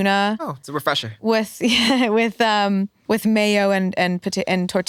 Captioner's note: chuckles